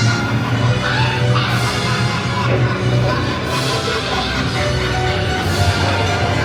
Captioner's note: sinister laughter; crow caws; intense music